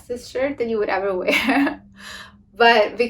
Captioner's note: laughs